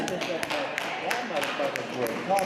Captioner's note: crowd laughs